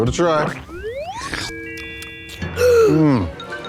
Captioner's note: ice cream slurps; Blueberry gasps